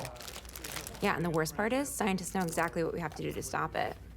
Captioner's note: none